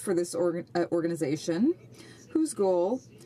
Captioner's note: speaking French